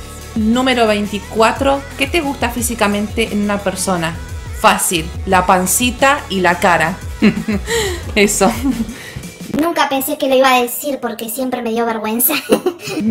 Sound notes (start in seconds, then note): 7.1 laughs; 12.2 nervous laugh